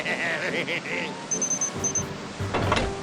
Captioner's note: chuckles evilly; beeping